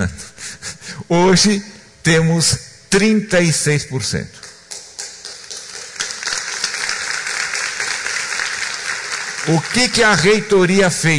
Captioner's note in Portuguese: applause